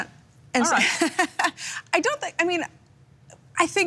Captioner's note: laughs